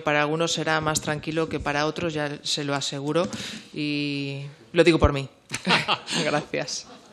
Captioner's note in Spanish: Risas